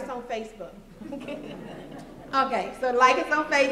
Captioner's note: laughter